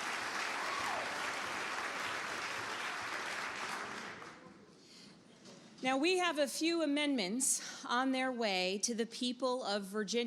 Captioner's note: applause